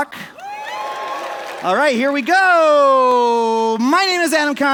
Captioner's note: cheers